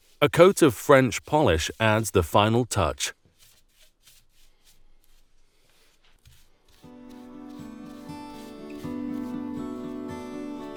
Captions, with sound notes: A coat of French polish adds the final touch. (brush swooshing) (gentle music)